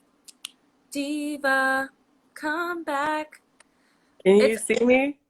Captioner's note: in singsongy voice